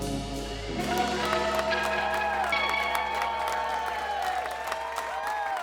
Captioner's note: people cheering